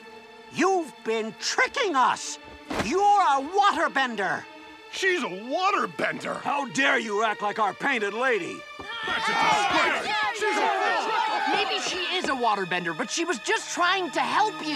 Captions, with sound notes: You've been tricking us. You're a waterbender. She's a waterbender. How dare you act like our painted lady? [crowd grumbling] Maybe she is a waterbender, but she was just trying to help you.